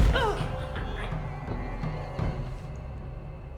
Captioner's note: Claire thuds